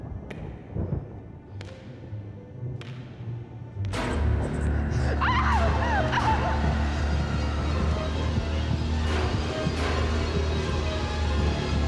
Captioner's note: girl shrieks